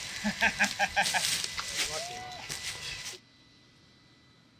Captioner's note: people laughing